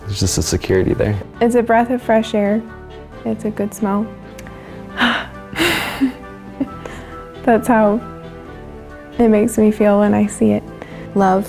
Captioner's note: inhales